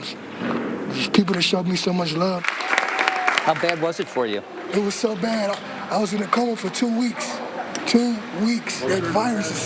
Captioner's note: applause